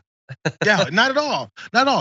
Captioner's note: laugh